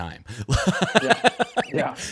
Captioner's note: laughing